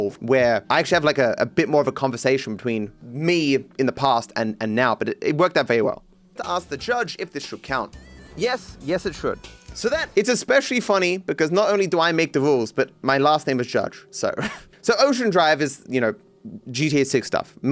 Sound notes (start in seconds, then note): 6.3 voiceover